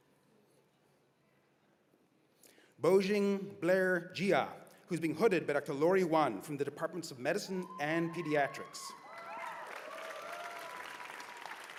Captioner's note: cheers and applause